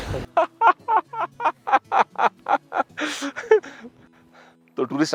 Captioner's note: laughter